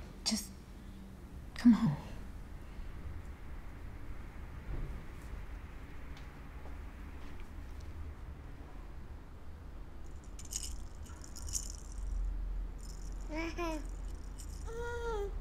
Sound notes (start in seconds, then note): 10.0 baby rattle shaking; 13.3 baby laughing